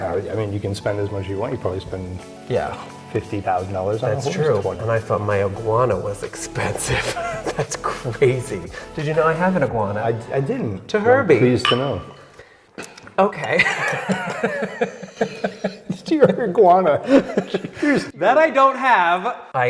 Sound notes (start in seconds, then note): 11.5 glasses clink; 13.6 both laughing; 17.4 laughing